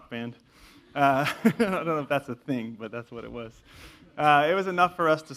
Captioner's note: laugh